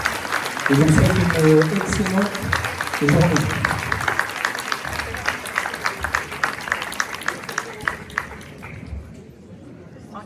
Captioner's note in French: applaudissement, applaudissement, applaudissement